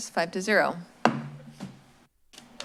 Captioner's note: bangs